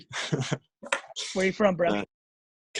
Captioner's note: laughing